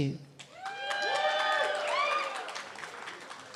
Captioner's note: cheering